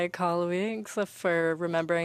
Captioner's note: speaking French